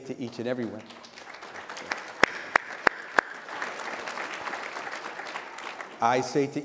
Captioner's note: applause